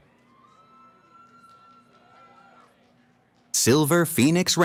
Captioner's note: cheering